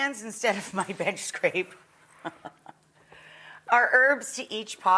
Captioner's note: laughs